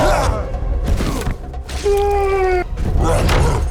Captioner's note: suspenseful music playing; Cletus groans